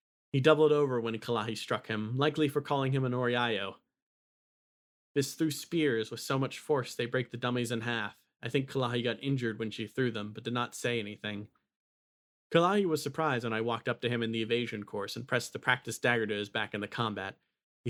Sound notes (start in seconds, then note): none